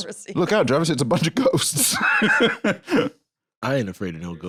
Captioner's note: laughs